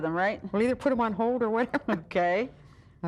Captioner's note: chuckling